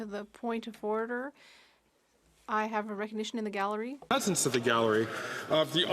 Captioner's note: speaking French